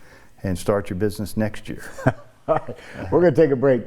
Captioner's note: laughs